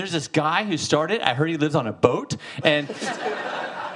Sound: audience laughing

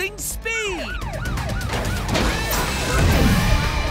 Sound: siren wailing

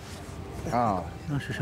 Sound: speaks in foreign language

